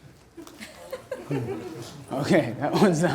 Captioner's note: audience laughter